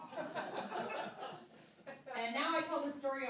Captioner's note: laughing